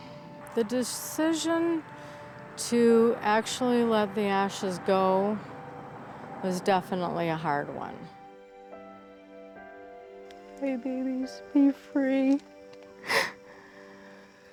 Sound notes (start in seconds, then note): 13.0 crying